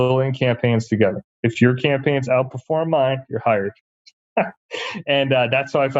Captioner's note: laughs